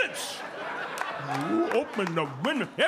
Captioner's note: audience laughing